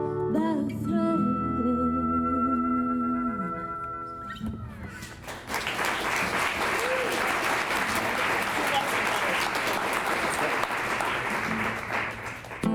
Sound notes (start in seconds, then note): 5.0 clapping